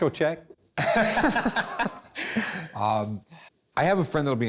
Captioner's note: laughter